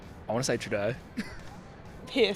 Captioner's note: chuckles